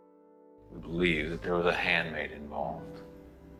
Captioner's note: voiceover